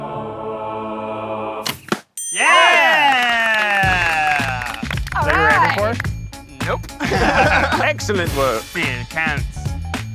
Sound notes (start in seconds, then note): 2.2 cheering; 6.6 laughing